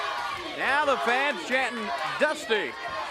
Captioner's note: crowd cheering